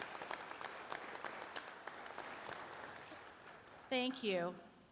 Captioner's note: applause